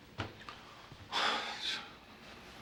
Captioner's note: sighs